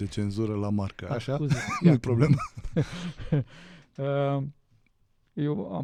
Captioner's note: laughter